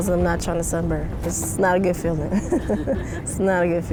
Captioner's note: laughs